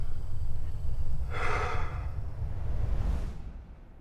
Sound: exhales

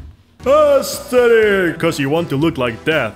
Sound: narrator , echoing

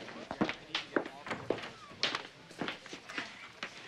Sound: feet thumping

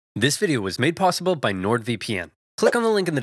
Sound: deeply Voice

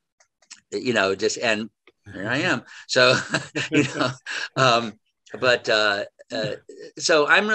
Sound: both laugh

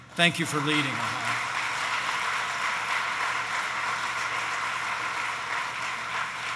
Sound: applause

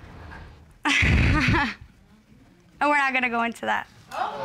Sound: chuckles

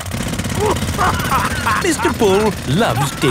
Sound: laughing

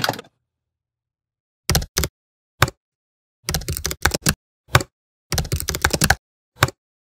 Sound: typing

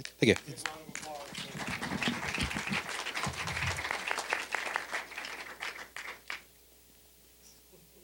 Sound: applause

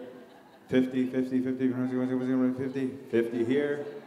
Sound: mimicking an auctioneer

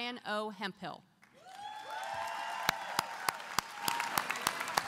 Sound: applause

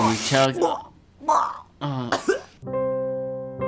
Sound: choking; sad music

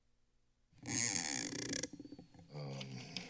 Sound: silence; mic rustling

